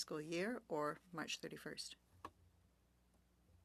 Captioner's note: speaking French